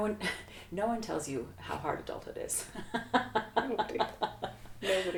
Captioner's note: laughs